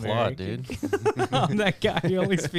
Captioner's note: laughing